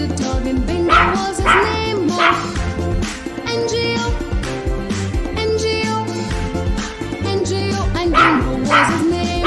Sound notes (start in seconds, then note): 3.0 clap – Clap